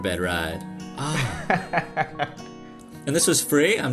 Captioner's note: laughter